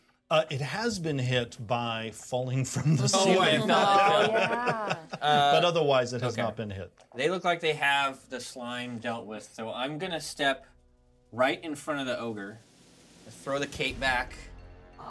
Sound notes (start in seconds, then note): 3.1 laughs